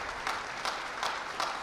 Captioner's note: applause